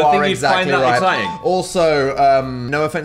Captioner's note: bell dings